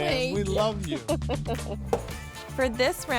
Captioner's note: laughing